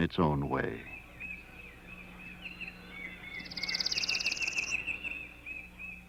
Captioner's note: nature sounds